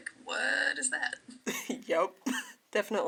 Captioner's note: laughter